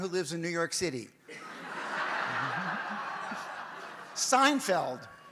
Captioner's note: audience laughs